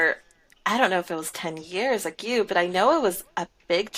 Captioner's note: none